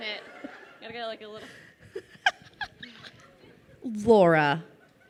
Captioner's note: laughing